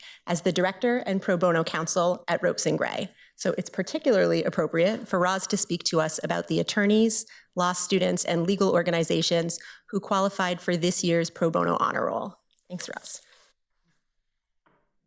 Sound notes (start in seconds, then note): none